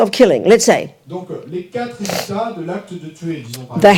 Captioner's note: audience member speaks in French